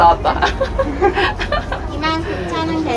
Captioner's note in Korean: 웃음